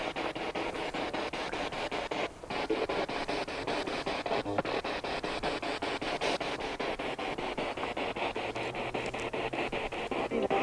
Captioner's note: noise of the spiritbox in the background